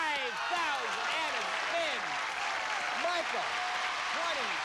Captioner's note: cheers and applause